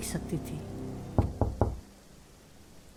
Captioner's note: knocking door